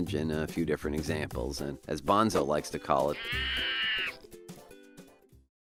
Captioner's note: Bonzo screams and waves arms in the air